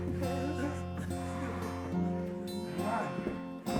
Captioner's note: Sue whimpering